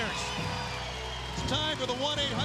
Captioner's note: crowd cheers